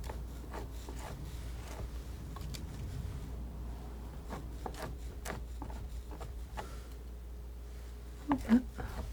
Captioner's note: scraping